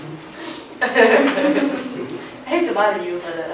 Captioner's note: laughing; laughter